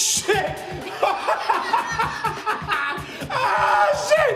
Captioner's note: laughing